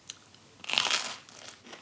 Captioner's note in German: Knuspern